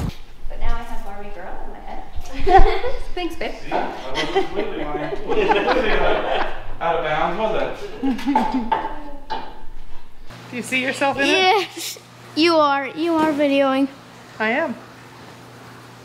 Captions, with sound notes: But now I have Barbie Girl in my head. So thanks babe See, I wasn't completely lying (laughing) or completely out of bounds was I? Do you see yourself in it? Yes. You are, you are videoing. I am.